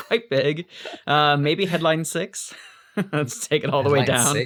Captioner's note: laughs